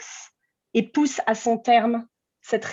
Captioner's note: continues in french